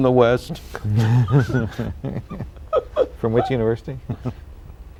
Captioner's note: laughter